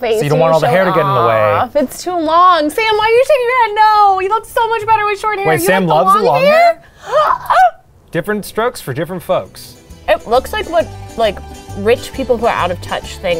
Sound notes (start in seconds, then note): 6.7 gasping